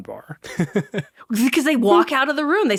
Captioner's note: chuckling